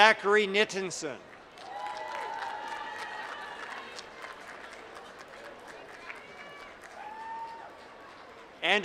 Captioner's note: applause